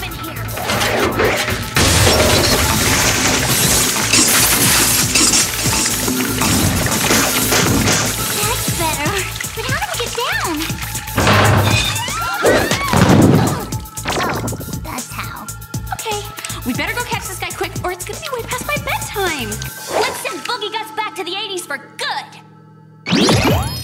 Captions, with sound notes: Cooling things off in here. [pipe bursting] [water rushing] That's better. But how do we get down? [screaming] [thud] Oh. That's how. - OK. We'd better go catch this guy quick, or it's gonna be way past my bedtime. Let's send Boogie Gus back to the '80s for good.